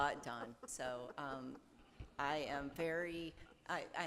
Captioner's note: group laughs